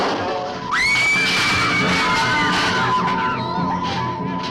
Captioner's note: girls screaming; crash booming; suspenseful music